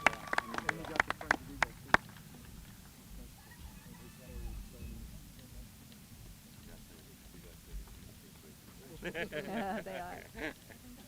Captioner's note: applause